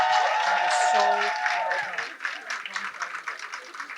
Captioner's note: applause